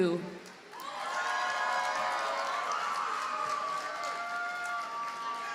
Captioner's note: audience cheers and applauds